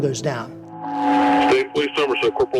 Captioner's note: radio feedback